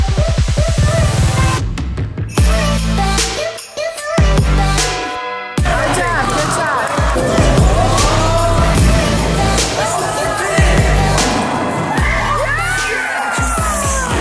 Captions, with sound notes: - Good job, good job. (cheering) - Yes!